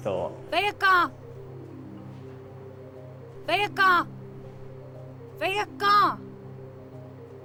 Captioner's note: speaking portuguese